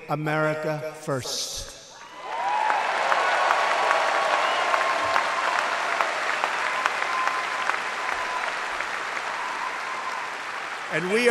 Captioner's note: applause